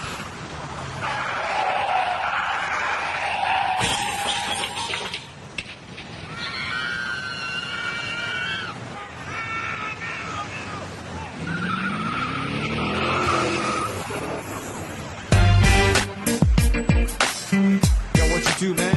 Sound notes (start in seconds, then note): 0.0 vehicle engine roaring; 2.3 tires screeching; 3.8 glass shatters; 6.2 residents screaming; 15.3 head-bobbing hip-hop music